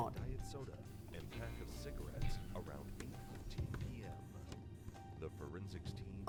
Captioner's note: TV drones on in the background